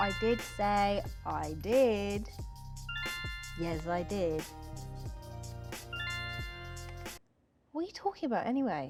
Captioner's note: notification sound